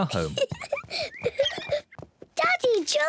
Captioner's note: peppa pig giggles